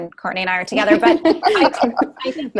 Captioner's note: all laugh